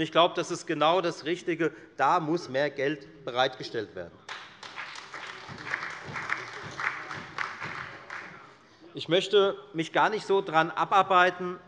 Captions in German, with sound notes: Ich glaube, das ist der genau richtige Weg. Dafür muss mehr Geld bereitgestellt werden. [Beifall bei der FDP sowie bei Abgeordneten der SPD und der LINKEN] Ich möchte mich gar nicht so sehr daran abarbeiten,